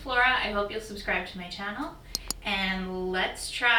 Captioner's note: clicking